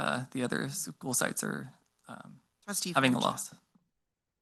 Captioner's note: speaks faintly